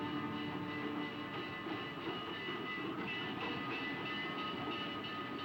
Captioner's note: train bell ringing; tense dramatic music